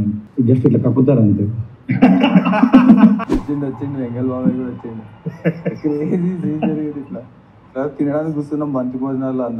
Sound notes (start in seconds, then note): 1.9 laughter